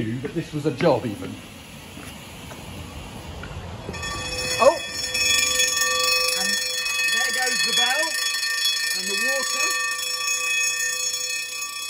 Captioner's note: alarm bell rings